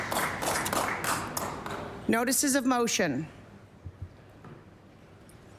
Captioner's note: applause